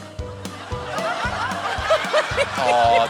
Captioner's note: laughter